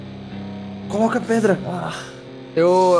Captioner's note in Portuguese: gemidos de dor